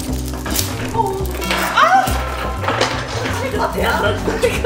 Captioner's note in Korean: 쇠사슬 소리; 기쁜 탄성